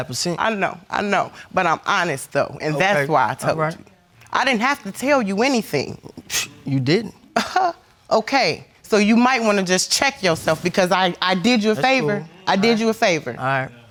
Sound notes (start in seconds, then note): 6.3 scoffs